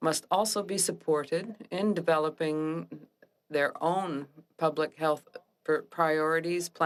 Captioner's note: speaking French